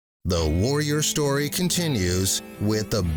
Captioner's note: voiceover